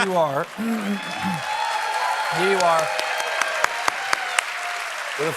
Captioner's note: laughs